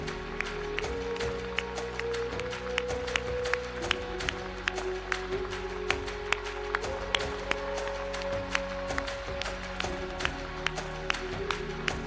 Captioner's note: applause